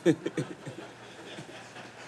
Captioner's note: laughter